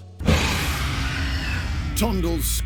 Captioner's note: man screams